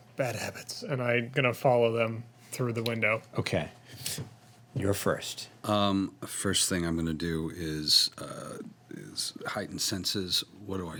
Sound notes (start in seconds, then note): none